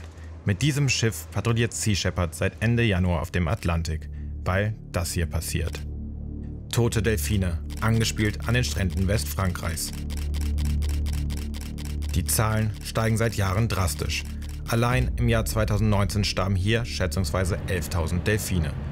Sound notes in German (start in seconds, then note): 9.5 Fotoklicken